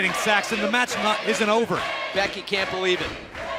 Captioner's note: fans chanting